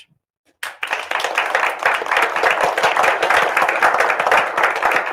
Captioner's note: audience applauding